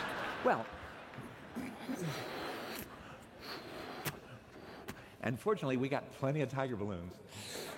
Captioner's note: laughter